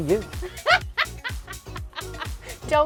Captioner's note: laughs